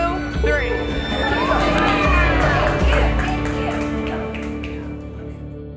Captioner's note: everyone cheering